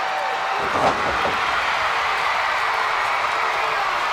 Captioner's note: crowd cheers